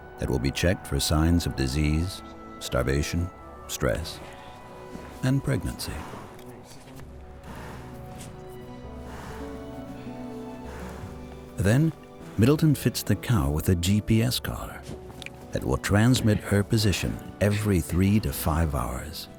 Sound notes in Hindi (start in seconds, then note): 6.7 गहरी साँसें खींचने की आवाज़